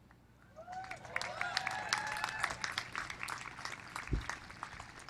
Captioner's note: cheers and applause